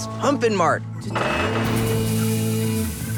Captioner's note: hissing